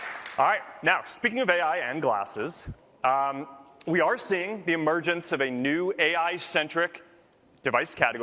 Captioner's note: applause